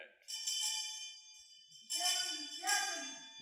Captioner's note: bell ringing urgently